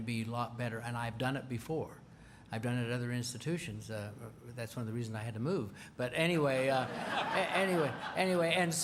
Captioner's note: laughter